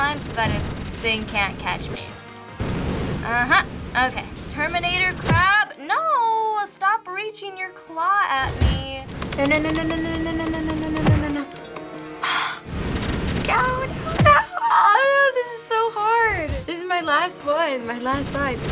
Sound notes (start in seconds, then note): 11.9 scoffs